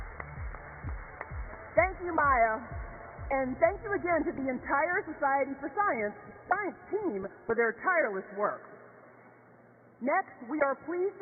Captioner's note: cheers and applause